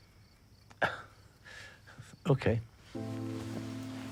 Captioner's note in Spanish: Oscar se ríe